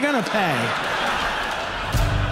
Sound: audience laughs

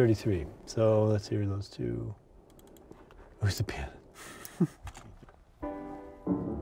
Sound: laughs

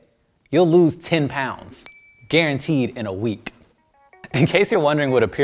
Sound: ding

